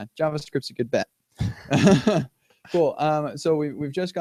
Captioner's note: laughter